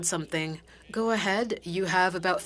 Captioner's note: speaking FRENCH